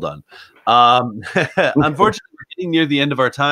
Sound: laughs

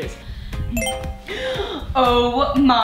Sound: phone beep

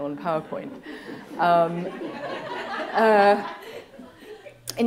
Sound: laughter

